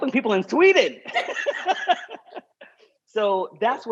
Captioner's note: laughter